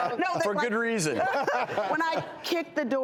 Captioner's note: laughing